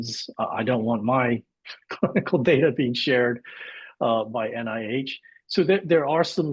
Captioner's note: laughs